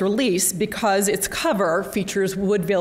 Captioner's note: none